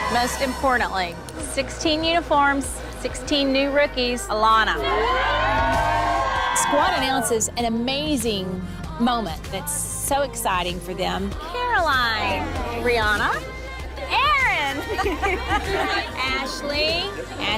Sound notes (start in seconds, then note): 4.7 girls cheering; 14.4 girls laughing